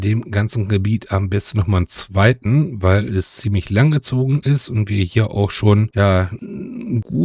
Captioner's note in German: räuspern